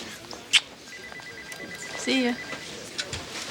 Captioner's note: phone ringing